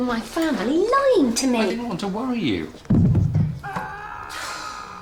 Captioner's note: thud above; sighs